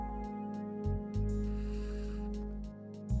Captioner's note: blows